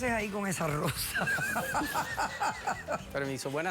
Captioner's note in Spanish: risas